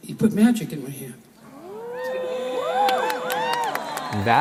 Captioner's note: cheering and applause